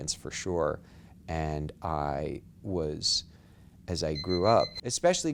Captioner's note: beeping sounds offscreen